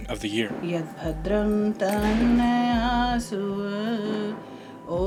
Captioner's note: chanting